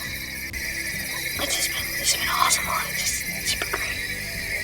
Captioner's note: whispering